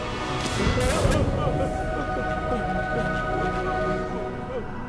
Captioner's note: scream